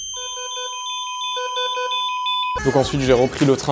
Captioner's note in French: ambiance étrange